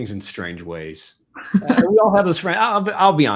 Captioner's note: laughs